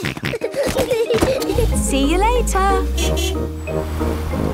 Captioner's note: kids giggling; snorting; honking